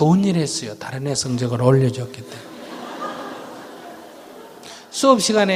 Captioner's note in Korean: 청중 웃음